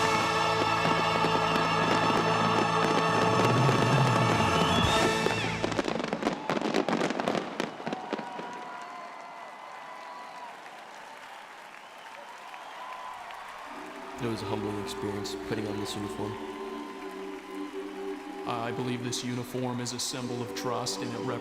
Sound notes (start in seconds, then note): 7.0 applause